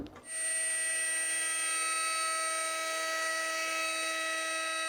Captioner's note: machine whirring